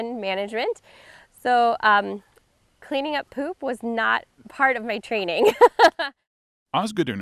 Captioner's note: laughs